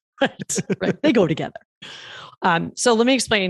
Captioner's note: laughs